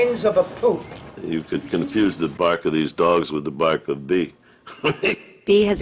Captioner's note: laughs